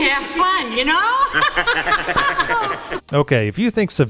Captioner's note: laughing